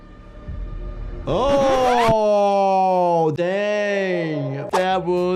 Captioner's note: suspenseful music; screen warbles